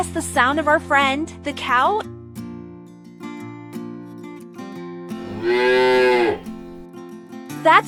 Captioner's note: mooo!